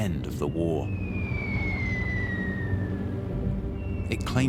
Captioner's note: missle whistling